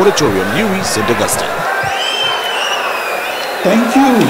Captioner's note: wild applause and cheering for 22 seconds